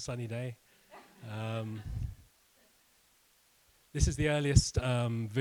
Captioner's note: students laughing